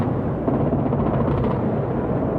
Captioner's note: explosions